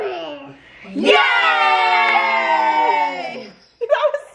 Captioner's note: all cheering